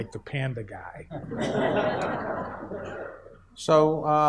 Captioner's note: audience laughs